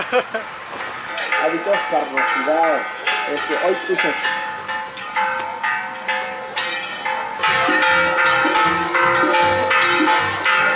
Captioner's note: laughter; constant church bell ringing